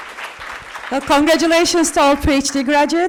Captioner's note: applause